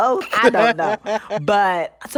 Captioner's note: laughter